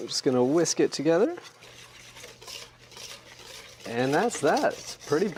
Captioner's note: whisking